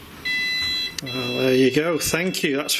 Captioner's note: machine beeping